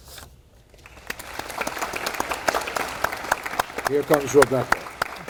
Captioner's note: audience applauding